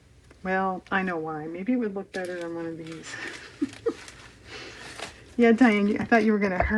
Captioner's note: laughs